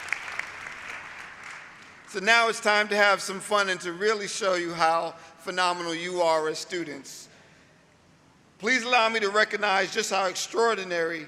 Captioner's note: applause